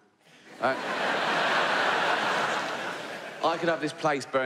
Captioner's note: audience laughs